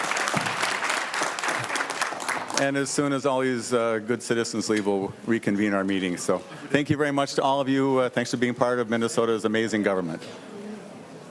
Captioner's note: applause